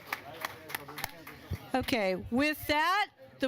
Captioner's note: applause